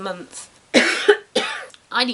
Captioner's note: cough cough